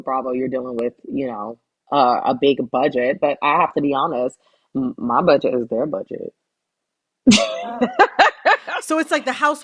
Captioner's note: laughter